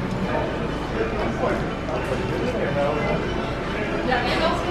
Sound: indistinct background chatter

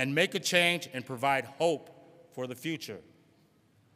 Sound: none

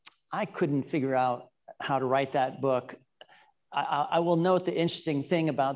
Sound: none

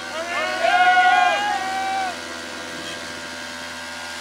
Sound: all shouting

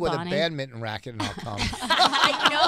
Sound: laughing

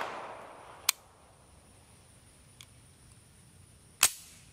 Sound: gunshots booming; mechanism clicking

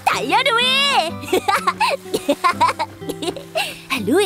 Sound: laughter

